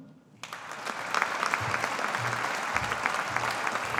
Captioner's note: audience applauding